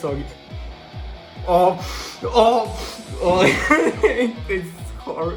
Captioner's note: shniffs; sniffs